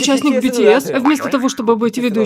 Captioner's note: Взволнованно